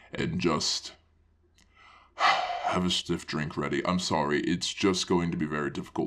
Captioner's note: breathes